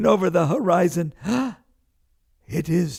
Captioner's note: gasps